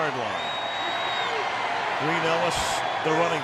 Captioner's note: crowd cheering